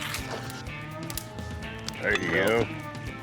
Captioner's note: rips shirt